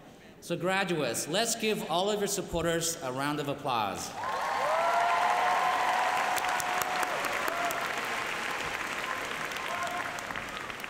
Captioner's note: applause